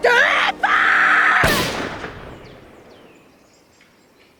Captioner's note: gunshot